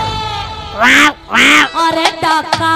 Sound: cawing

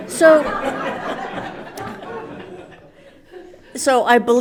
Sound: everyone laughs

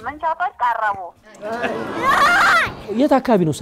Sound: scream

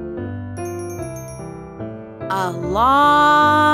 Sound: bell chimes

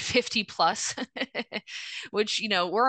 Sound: laughing

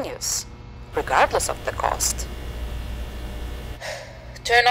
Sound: fluorescent light buzzing; sigh

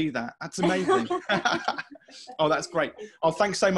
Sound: laughing

